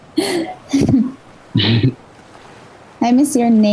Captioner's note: laughs; laughing